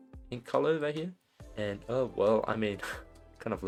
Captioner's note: scoffs